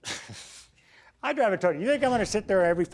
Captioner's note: chuckles